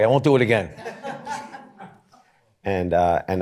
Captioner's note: laughter